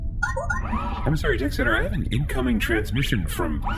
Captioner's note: incoming transmission sound